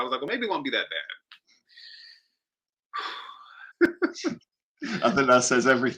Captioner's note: heavy Sigh